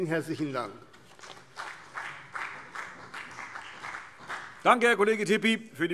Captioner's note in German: Beifall CDU und BÜNDNIS 90/DIE GRÜNEN